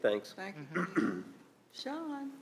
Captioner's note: clears his throat